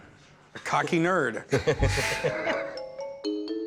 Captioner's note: laughter